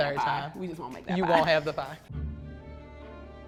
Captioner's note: laughs; mysterious music